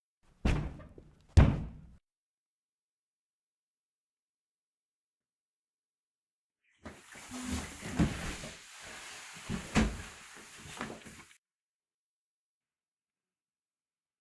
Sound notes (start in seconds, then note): 1.3 basement door slams shut